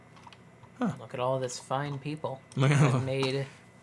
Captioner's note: laughs